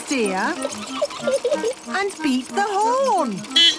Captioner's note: giggling; beeping